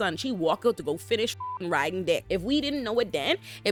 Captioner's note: beep